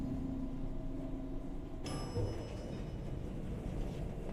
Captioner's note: elevator bell rings